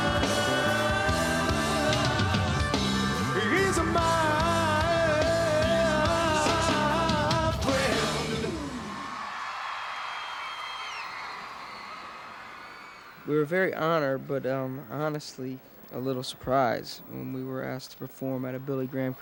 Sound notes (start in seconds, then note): 10.2 audience cheers